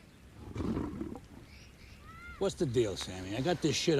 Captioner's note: tiger growling